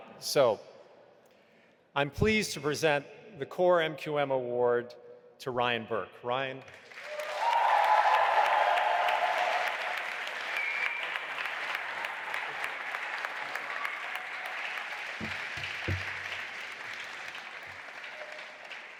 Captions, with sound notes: So I'm pleased to present the core MQM award to Ryan Burk, Ryan? (audience applauding and cheering)